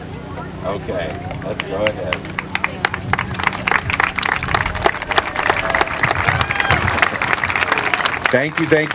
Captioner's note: applause